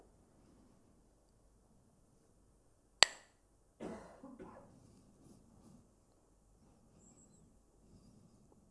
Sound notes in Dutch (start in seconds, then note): 3.0 klakt met stokjes